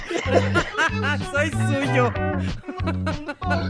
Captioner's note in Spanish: risas